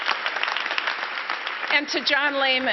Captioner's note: applause